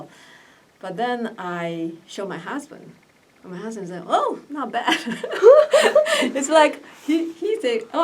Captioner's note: laughs